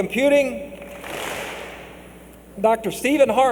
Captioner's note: clap